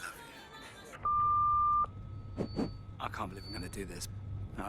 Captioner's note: beep